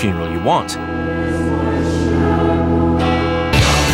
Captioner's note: bell tolls, choir sings; rock music plays